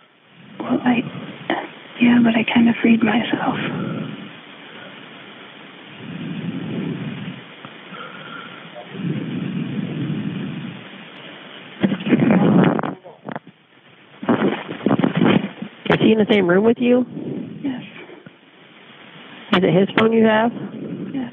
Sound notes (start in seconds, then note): 4.8 recording hissing